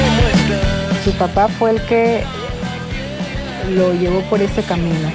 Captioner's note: speaking Spanish